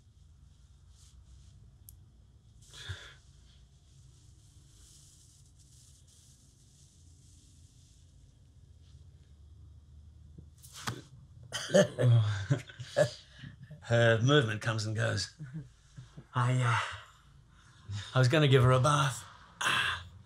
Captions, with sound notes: (chuckles) - Her movement comes and goes. I was gonna give her a bath, but all this activity's,